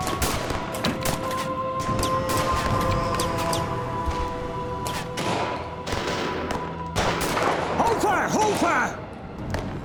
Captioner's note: gun clicking, reloading; gunshots continue